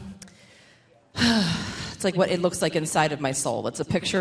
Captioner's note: sighs